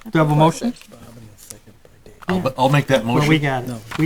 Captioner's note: board murmuring